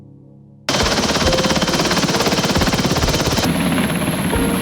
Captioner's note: helicopter rotor thunders